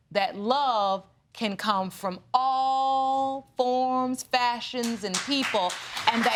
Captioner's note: applause